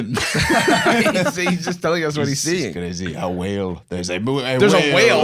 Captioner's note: French accent; French accent